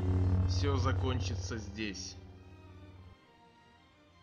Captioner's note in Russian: голос Люка